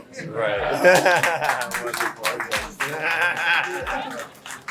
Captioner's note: crowd applauding